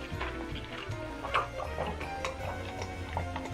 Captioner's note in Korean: 물 꼴깍꼴깍 마시는 소리